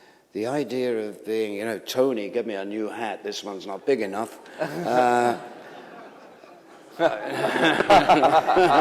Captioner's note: laughter